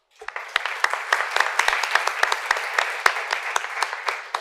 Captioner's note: applause